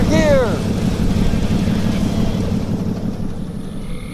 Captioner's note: motor revving; music fades; crickets; soft music